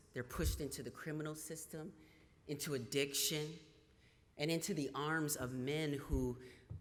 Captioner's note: none